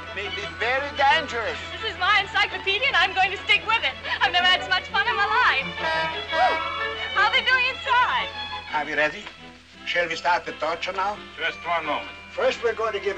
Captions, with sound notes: It may be very dangerous. This is my encyclopedia, and I am going to stick with it. I've never had so much fun in my life. (HORN HONKING) How are they doing inside? Are we ready? Shall we start the torture now? Just one moment.